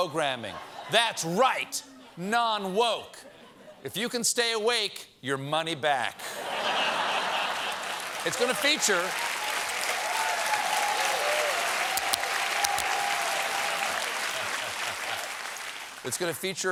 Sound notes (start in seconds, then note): 6.2 laughter; 6.6 applause; 14.4 applause